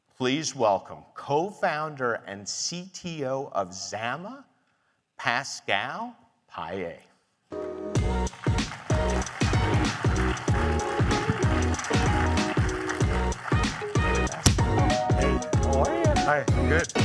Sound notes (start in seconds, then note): 7.5 gentle upbeat music; 7.6 audience applauds